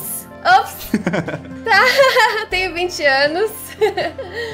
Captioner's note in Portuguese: risada